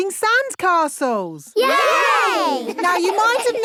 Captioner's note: laughing